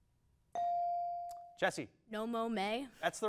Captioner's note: bell dings